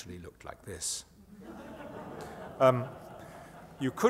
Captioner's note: laughter